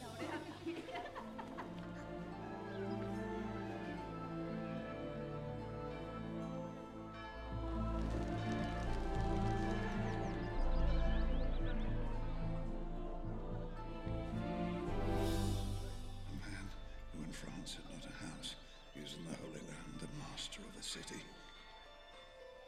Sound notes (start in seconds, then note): 0.0 women giggling; 5.1 bells tolling in distance